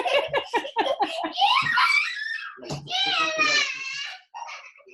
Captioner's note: both laughing; child screaming